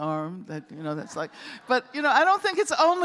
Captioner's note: laughter